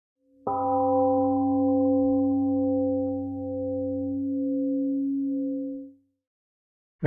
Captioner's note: temple gong rings and fades